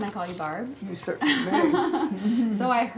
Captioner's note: laughs